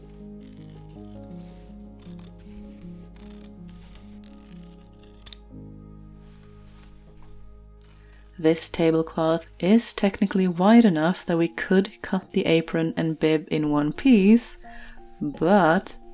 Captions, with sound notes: [Soft rustle of scissors] [Snip] This tablecloth is technically wide enough that we could cut the apron and bib in one piece. But.